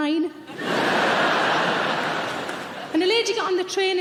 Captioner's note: audience laughing